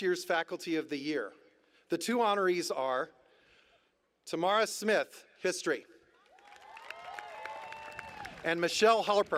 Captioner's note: applause